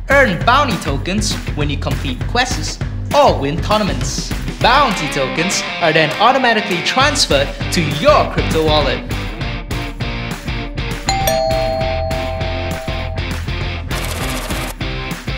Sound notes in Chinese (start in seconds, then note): 11.1 门铃响起